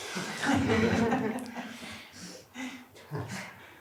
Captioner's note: laughter